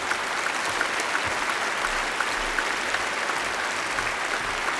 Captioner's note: applause